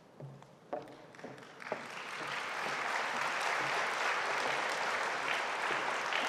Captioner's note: audience applauding